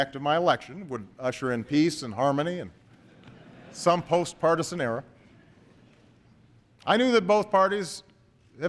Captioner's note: laughter